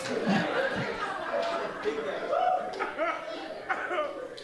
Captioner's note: audience laughing